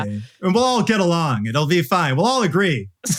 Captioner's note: laughs